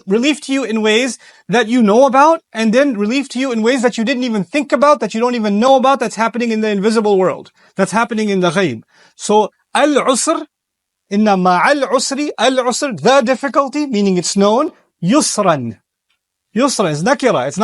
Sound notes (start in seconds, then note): 11.7 speaking Arabic; 15.1 speaking arbaic